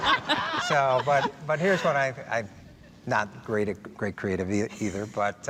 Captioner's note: all laughing